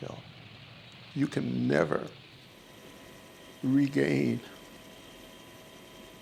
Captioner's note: helicopter engine echoes